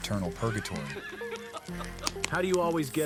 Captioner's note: laughter